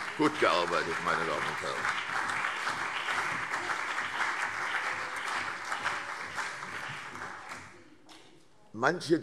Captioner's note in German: Beifall CDU und BÜNDNIS 90/DIE GRÜNEN